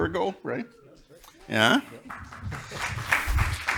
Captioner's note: crowd clapping